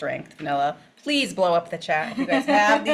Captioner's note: laughs